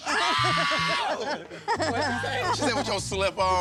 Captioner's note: Bob screams